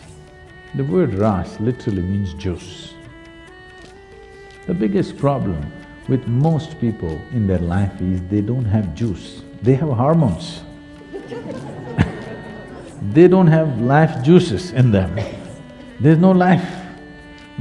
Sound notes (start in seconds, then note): 11.0 laughter